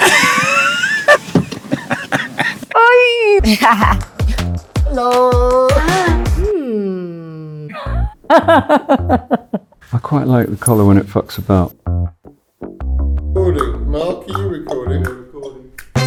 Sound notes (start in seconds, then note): 1.5 Hugh laughing; 2.7 actress exclaiming; 3.2 actress laughing; 7.6 Kate laughing; 12.6 jazzy bass music